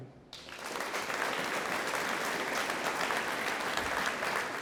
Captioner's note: audience applauding